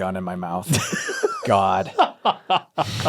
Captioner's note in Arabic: يضحك